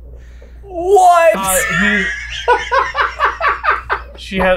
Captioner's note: cackles